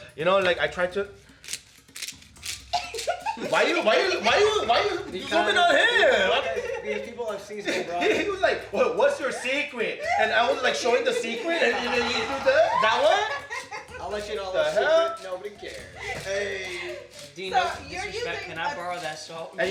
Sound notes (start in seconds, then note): 1.8 salt shaker scratching